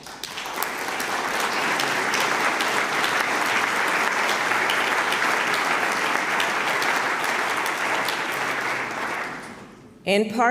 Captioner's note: applause